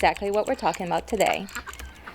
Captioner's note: keyboard typing